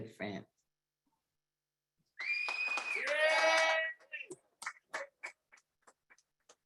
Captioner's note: audience applaudes